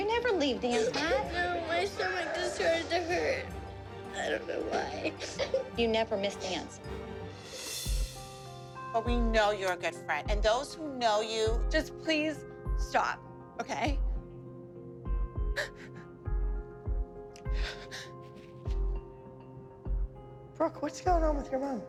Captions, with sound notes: -You never leave dance. -My stomach started to hurt. I don't know why. You never miss dance. But we know you're a good friend, and those who know you-- Just please stop, okay? [crying] Brooke, what's going on with your mom?